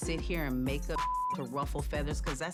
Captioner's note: beep